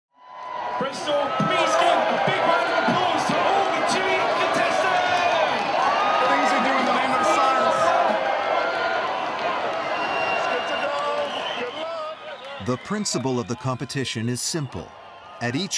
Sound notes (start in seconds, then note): 0.0 crowd cheering; 5.3 crowd cheering